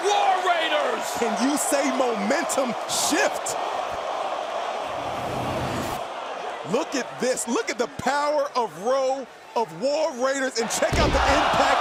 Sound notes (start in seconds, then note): 2.9 crowd cheering